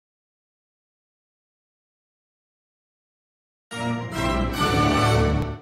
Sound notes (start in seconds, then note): 0.0 silence